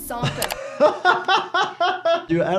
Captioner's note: laughs